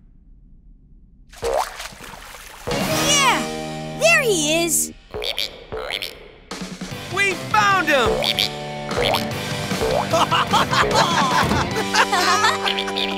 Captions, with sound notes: Yeah, there he is! [ribbiting] We've found him! [ribbiting] [laughing]